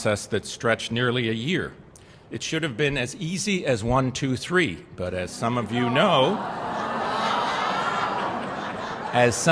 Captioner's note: laughter